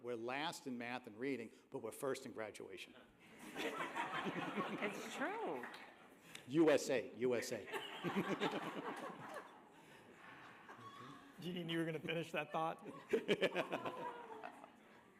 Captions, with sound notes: We're last in math and reading, but we're first in graduation. [LAUGHTER] It's true. USA. USA. [LAUGHTER] Do you think you were going to finish that thought? [LAUGHTER]